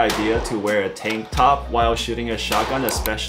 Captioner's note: gun firing